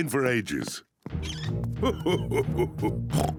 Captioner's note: laughs; oinks